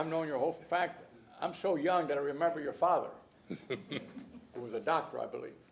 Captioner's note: laughter